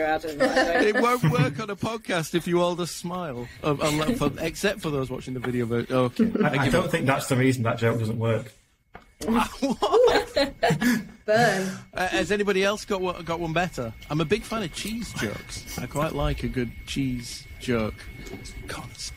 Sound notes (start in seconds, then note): 9.2 laughing